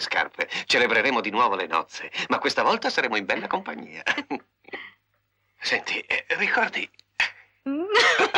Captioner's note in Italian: risate